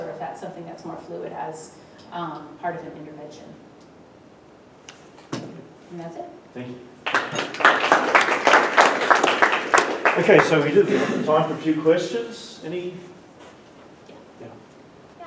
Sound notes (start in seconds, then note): 7.0 applause